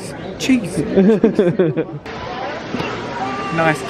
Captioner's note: laughing